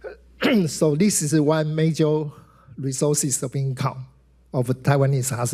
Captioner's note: clears throat